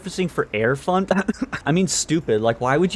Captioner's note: cough